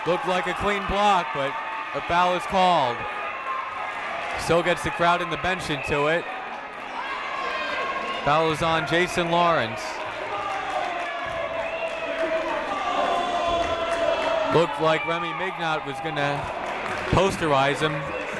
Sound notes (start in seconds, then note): 10.9 booing